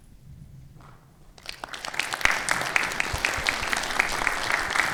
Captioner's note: audience applauding